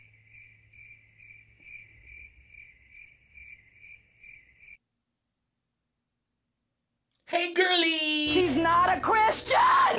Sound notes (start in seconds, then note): 3.0 crickets chirping